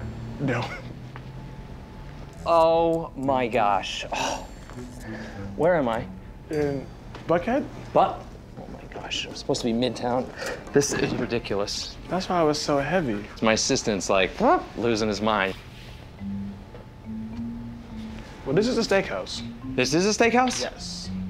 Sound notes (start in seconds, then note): 0.5 chuckles; 4.1 sighs